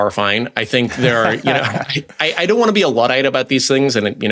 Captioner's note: laughs